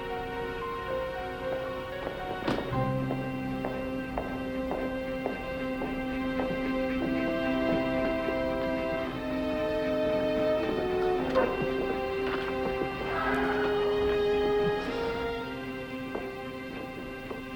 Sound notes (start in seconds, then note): 2.9 footsteps click; 8.2 slow tense music